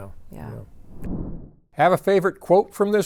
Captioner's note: graphic whooshing